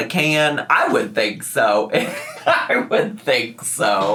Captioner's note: laughs